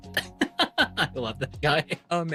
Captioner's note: laughing